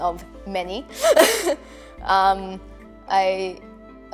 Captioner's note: laughing